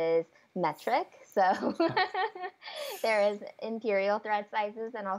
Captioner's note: laughs